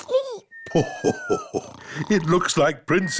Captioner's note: laughs